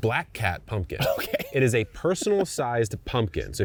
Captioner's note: chuckles